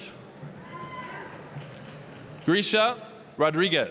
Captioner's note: applause